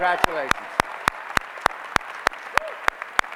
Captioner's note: applause